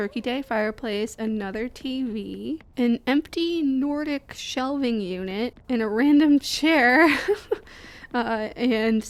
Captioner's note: laughing